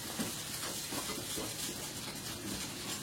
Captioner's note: rustling